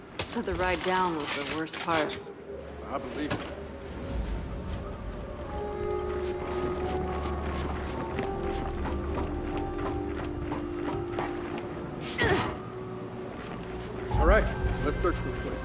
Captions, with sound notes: Said the ride down was the worst part. - I believe it. (suspenseful music) (footsteps) - All right, let's search this place.